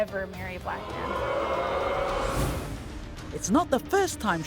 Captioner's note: audience boos